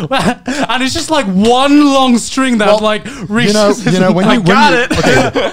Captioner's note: murmurs